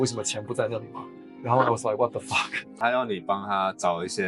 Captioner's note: Korean